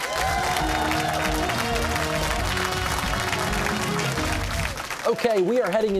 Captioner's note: cheers and applause